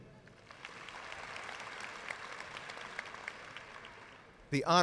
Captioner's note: audience applauds